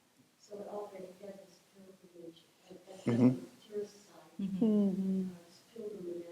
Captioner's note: faintly speaking